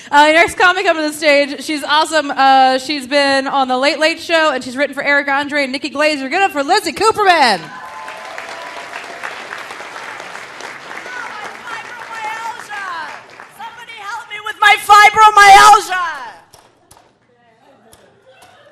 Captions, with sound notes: Our next comic coming up to the stage, she's awesome, she's been on "The Late, Late Show" and she's written for Eric Andre and Nikki Glaser, give it up for Lizzie Cooperman. (audience cheering) (audience applauding) - Oh! My fibromyalgia. Somebody help me with my fibromyalgia.